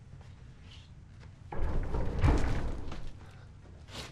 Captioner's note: vibrating